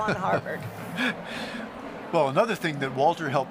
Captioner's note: chuckling